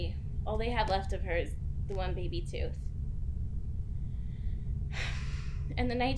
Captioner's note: sighing